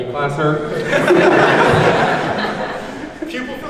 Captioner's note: laughs